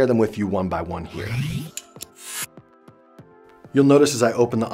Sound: zapping

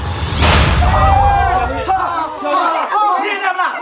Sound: shouting in astonishment

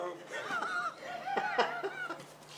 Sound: bilbo laughs

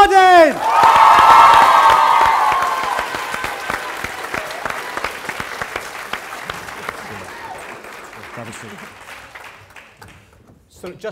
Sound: cheering & Applause

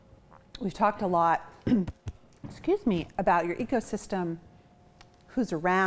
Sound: clears throat

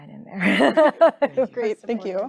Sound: chuckling

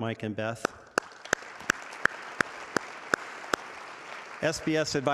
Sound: audience applauding

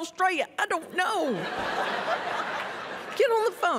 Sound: laughter

